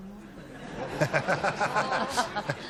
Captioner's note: laughter